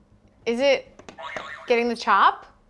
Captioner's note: buzzer beeps